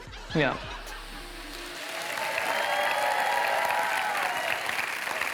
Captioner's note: cheering and applause